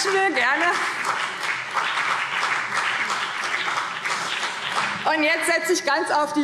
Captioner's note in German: Beifall BÜNDNIS 90/DIE GRÜNEN und CDU